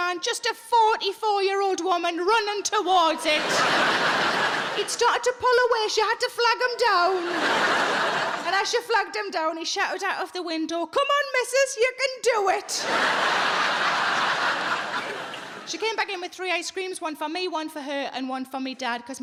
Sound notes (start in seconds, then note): 3.1 audience laughing; 12.7 audience laughing